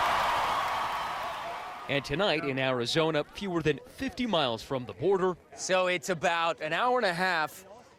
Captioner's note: cheers and applause